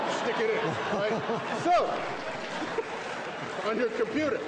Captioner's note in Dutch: Gelach, applaus